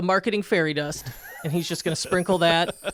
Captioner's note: chuckling